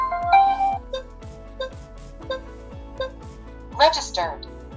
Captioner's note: beeping